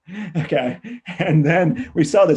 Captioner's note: laughs